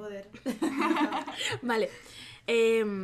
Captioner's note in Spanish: risas